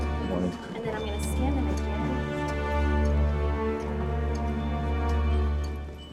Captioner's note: teachers chattering